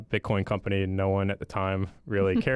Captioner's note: chuckles